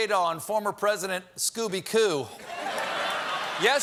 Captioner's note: laughter